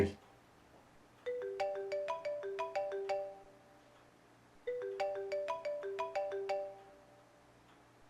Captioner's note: mobile continues ringing